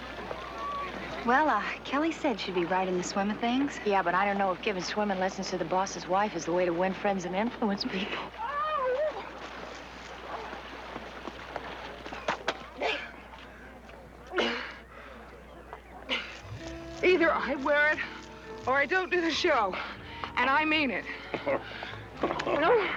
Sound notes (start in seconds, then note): 12.6 gasping for air; 21.3 chuckles